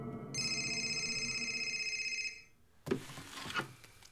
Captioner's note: cell phone ringing